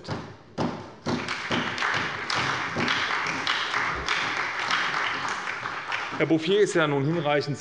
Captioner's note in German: Beifall bei der SPD